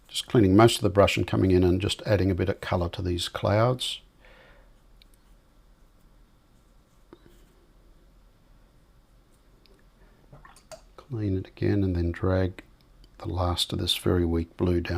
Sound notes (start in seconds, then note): 6.2 silence